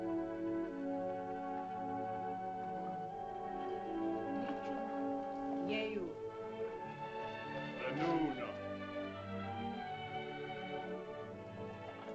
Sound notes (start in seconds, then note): 5.6 woman speaks in caveman language; 7.8 man speaks in caveman language; 9.9 soft music